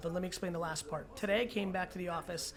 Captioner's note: none